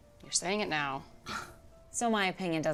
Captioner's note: Lark scoffs